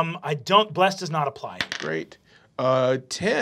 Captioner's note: dice clacking